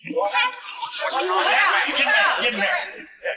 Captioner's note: people chatter